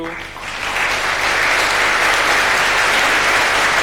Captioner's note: audience claps